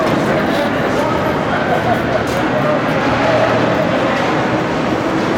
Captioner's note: general construction noise, men talking and shouting